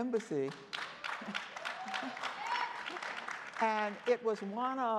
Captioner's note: crowd applauding